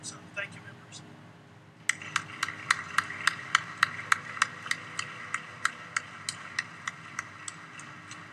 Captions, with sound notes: So, thank you members. (applause)